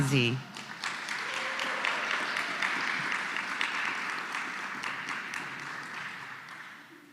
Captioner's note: applause